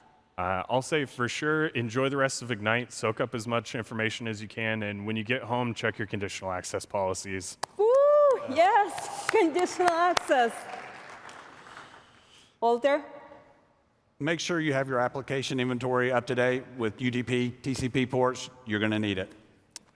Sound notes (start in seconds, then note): 10.6 applause